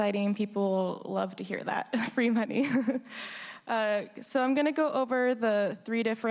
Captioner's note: laughter